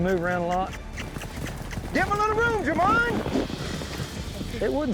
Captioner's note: hoofbeats